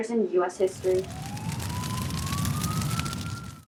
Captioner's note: flames and sirens